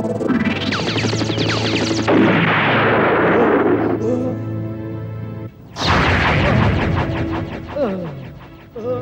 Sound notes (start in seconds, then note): 1.2 explodes